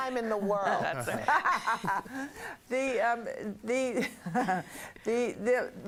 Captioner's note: laughter